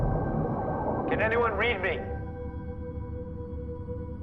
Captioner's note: Shimada on Radio